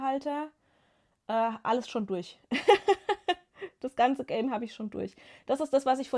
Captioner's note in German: gelächter